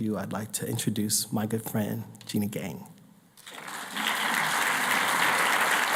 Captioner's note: applause